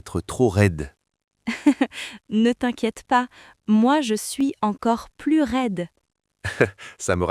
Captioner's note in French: rire